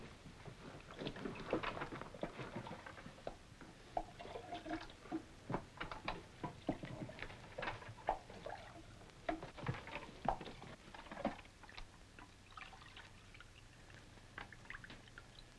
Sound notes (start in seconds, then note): 3.9 water trickles; 12.6 water trickles